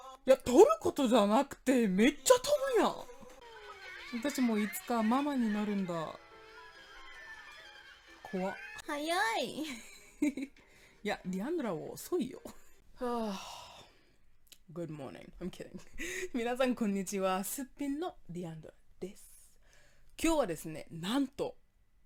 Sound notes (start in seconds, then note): 13.2 heavy sigh